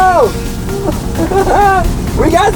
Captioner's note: laughs